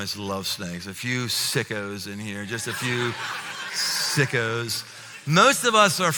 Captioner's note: laughter